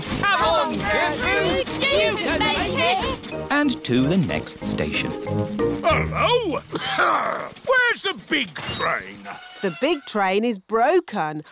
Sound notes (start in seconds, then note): 5.8 coughs